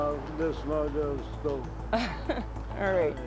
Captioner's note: laughter